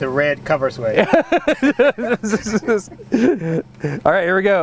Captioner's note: laughs loudly